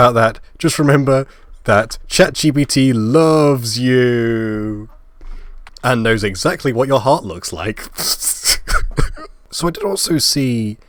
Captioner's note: laugh